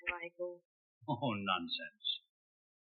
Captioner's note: chuckles